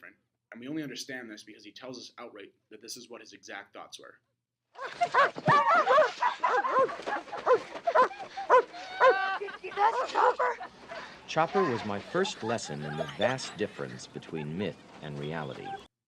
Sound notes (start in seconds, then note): 4.9 dog barking